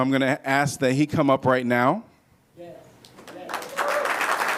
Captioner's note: applause